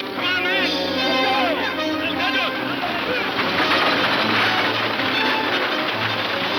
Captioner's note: horses gallop; music intensifies